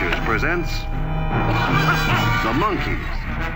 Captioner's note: laughter